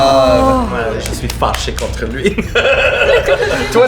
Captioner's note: he laughs